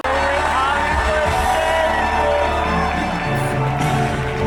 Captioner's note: crowd cheering